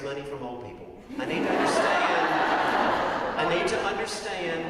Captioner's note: laugh